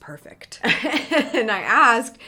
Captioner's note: laughs